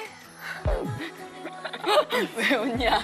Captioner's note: laughing